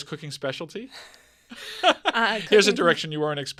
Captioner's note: both laughing